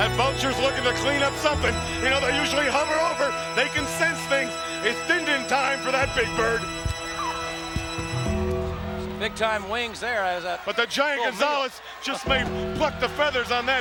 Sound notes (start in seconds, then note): 7.4 vulture calling